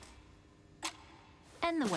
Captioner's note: clock ticking